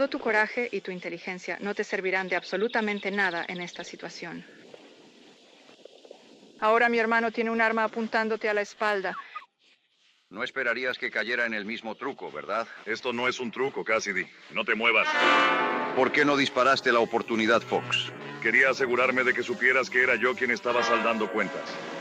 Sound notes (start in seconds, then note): 9.3 hoppy chuckles; 15.2 worrying music strike